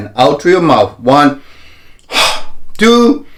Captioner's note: inhaling and exhaling